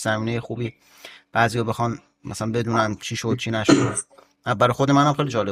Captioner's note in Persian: گلویش را صاف می‌کند